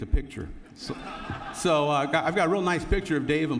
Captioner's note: laughter